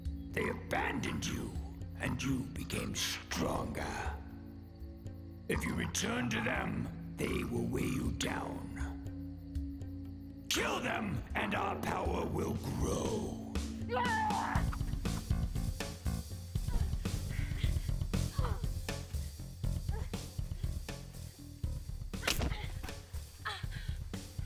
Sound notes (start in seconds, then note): 13.8 Kyne screams; 14.0 dramatic music; 16.5 Kyne grunts and pants; 22.2 thud